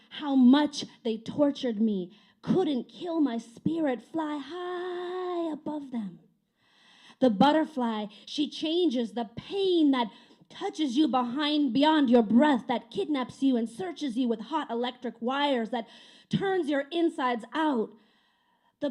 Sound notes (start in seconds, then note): none